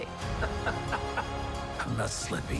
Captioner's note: laughter